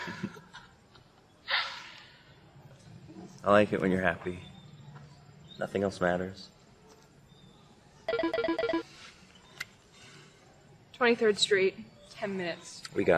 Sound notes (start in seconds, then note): 8.0 phone beeping